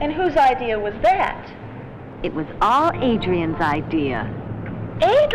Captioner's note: none